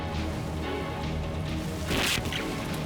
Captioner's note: electrical chirping